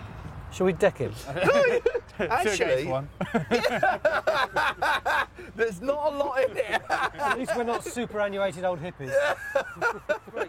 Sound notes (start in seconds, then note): 1.2 laughs; 3.1 laughing; 6.5 laughs; 9.0 laughing